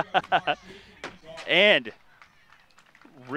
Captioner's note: laughing